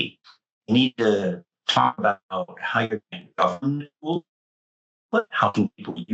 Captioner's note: mic cutting